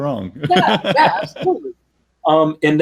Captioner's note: laughs